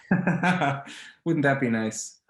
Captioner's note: laughs